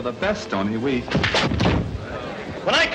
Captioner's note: fist thuds